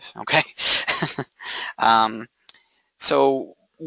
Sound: chuckling

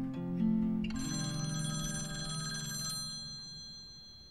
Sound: phone rings

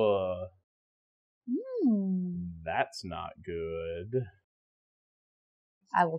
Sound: happy player noises

